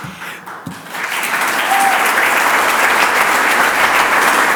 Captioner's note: audience applauds